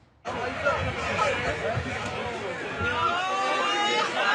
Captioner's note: indistinct conversation